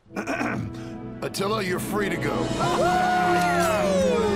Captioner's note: clears throat; all cheering